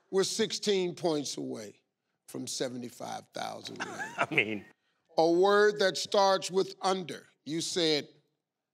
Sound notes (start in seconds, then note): 3.7 laughs